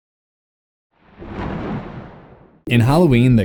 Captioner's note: thunder